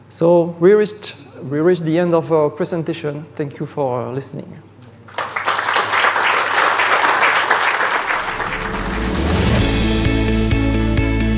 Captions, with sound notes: So we reached the end of our presentation. Thank you for listening. (audience applauds) (upbeat music)